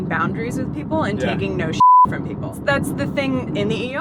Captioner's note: beep